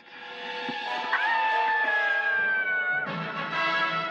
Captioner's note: screaming